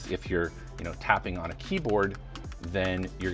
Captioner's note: keyboard clacking